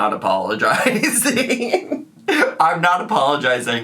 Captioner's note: laughing